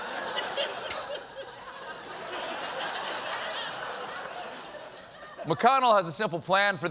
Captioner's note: laughter